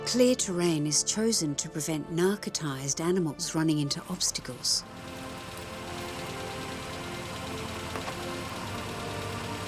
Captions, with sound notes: Clear terrain is chosen to prevent narcotized animals running into obstacles. (car engine running)